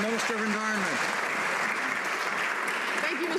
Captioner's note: some Applause